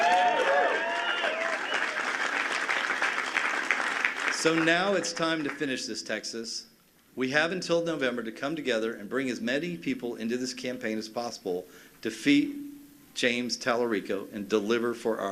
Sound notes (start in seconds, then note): 4.7 cheers and applause